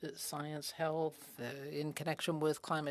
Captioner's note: speaking FRENCH